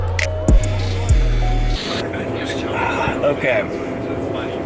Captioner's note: airplane engine starting up